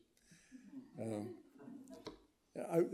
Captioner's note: audience laughing